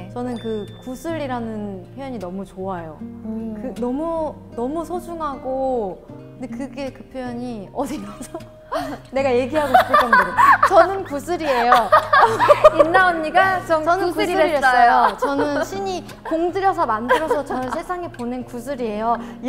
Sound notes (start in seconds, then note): 9.6 crack up